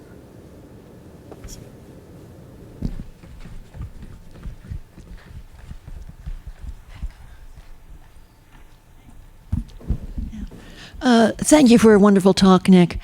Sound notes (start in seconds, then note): 2.7 mic rustles